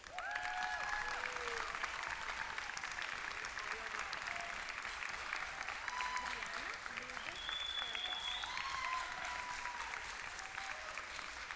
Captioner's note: applause